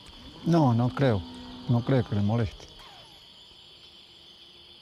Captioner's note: speaking Spanish